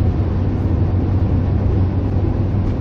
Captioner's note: engine sounds